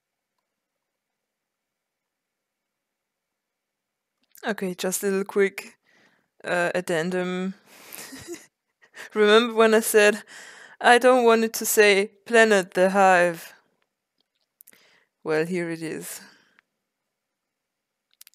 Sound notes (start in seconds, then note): 7.8 giggles